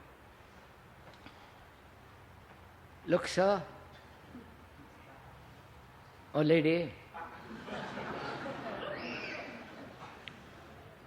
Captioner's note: laughter